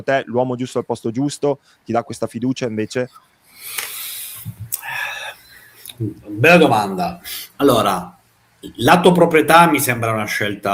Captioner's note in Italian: sospiri